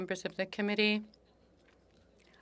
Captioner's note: speaking French